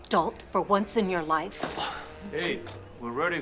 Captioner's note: Drew scoffs